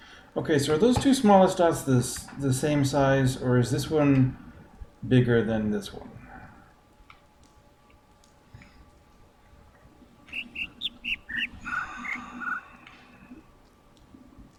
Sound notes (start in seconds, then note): 9.6 overlapping birds chirping, ˥ ˥ ˩ ˧ ˩